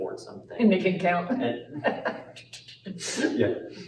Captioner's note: laughter